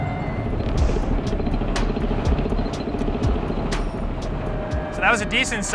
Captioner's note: tank revs; dramatic music